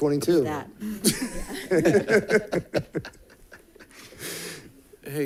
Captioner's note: people giggling